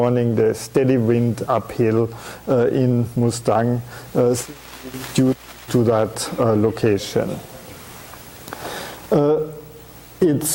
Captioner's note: audio static